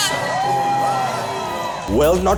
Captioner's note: cheers